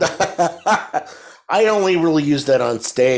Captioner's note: laughs